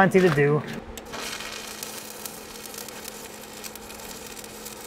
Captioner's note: welder sputtering